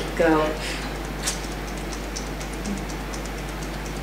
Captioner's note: fingers tapping